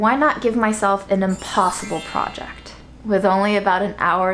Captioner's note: chimes tinkling